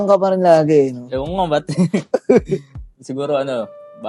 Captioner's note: laughs